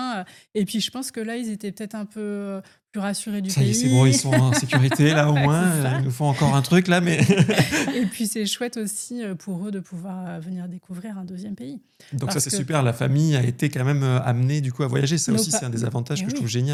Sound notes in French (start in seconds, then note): 3.8 rires